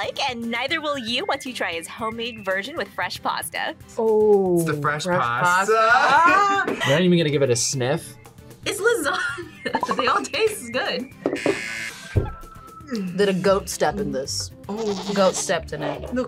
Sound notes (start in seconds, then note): 8.8 laughs; 11.3 buzzer